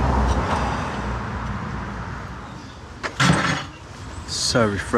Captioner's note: sighs